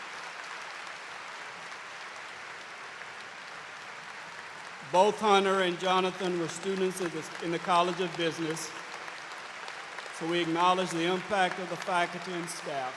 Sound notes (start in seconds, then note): 3.0 applause